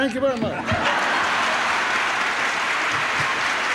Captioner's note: applause